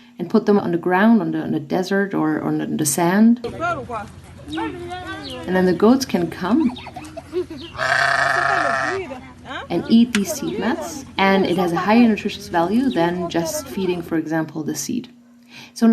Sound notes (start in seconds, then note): 3.5 woman speaking in foreign language; 6.3 children laughing; 6.7 goats bleating